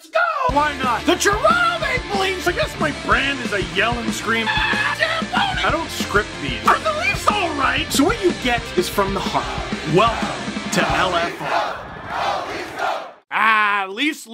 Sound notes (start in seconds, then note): 1.0 rock music plays throughout intro; 4.4 screams